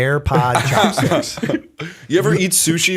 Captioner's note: laughter